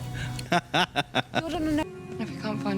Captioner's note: laughing